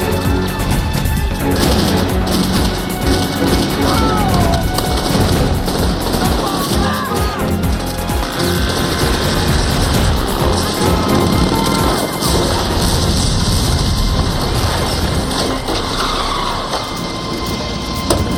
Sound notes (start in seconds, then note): 1.2 gunshots; 11.0 man shouting in French; 15.4 tires screeching